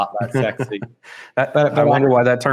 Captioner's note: laughing